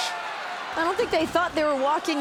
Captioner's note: crowd cheering